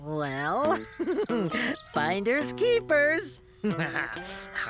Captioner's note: giggling